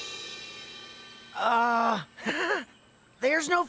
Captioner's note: giggles